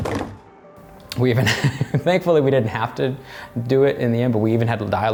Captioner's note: laughing